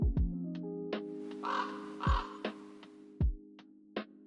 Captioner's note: raven song